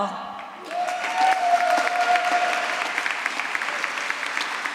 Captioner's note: applause